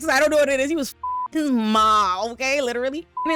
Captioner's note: beep; beep